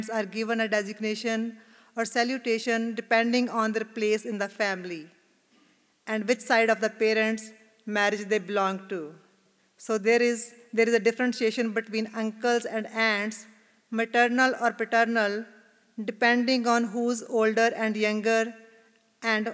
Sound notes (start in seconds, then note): none